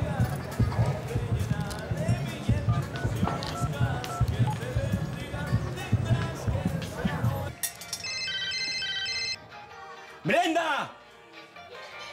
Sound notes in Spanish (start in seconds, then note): 4.8 Sonido al marcar; 9.6 Suena teléfono